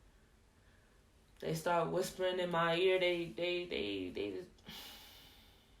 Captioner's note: sigh